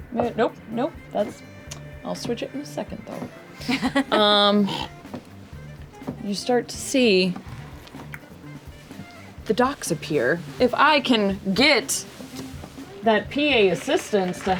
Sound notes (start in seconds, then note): 3.6 laughter